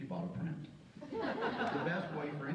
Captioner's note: audience laughs